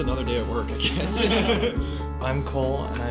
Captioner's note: people laughing